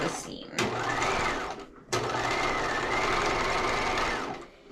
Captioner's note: sewing machine roaring